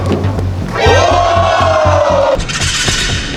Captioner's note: A roar of amazement echoes